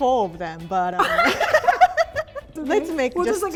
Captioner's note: both chuckle